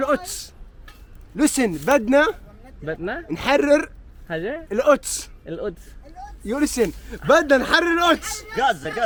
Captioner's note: arabic words; arabic words